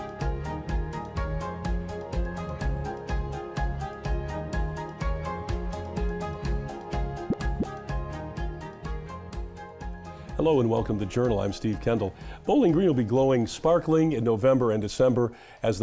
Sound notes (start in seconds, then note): 0.0 upbeat music continues; 7.2 graphic pop; 8.1 upbeat music fades